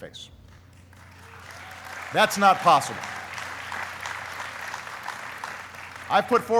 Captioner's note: applauding